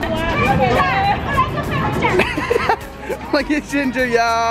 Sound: laughing; chattering

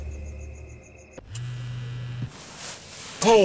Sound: cell phone buzzing

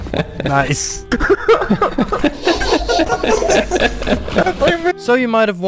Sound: everyone laughing

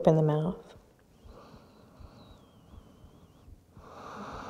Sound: deep breathing

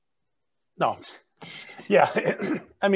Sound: chuckles

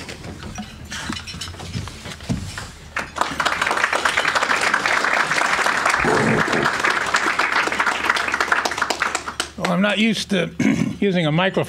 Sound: applause

